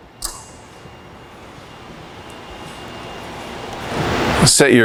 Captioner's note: machine noise